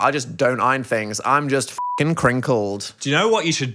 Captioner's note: beep